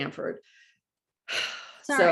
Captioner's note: sighs